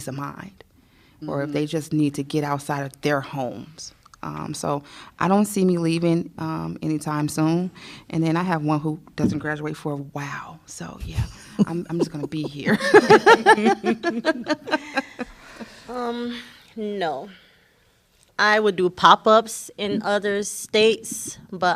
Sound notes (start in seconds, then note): 11.4 laughter